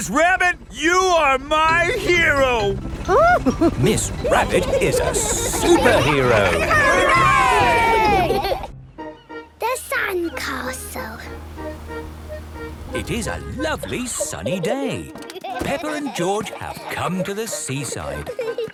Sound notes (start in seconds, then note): 3.0 giggles